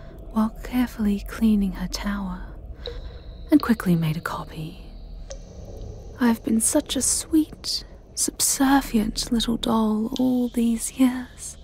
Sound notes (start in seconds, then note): none